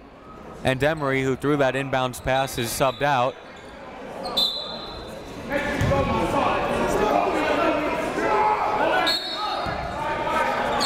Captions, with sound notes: And Emory who threw that inbounds pass is subbed out. (crowd talking) (coaches yelling)